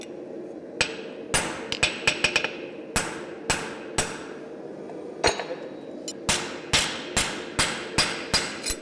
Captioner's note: sharp metallic hammering